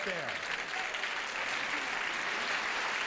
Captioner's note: audience applauding